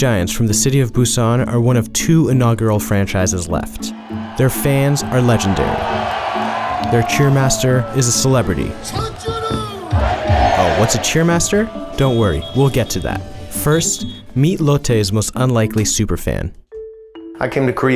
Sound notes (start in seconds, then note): 6.6 crowd cheering; 9.0 crowd cheering; 9.0 yelling in foreign language